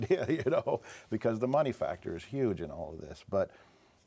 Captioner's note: chuckles